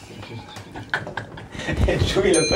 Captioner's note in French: rire